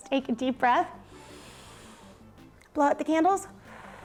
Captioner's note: inhales; blows